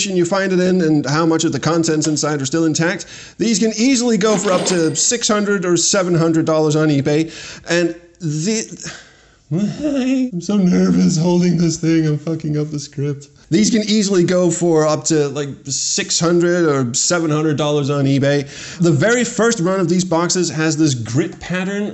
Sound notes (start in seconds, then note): 8.6 exasperated noise; 8.6 stuttering